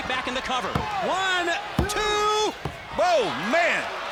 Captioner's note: hand pounding